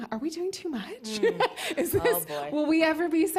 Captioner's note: laughs